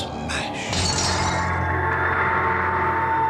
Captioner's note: kaca pecah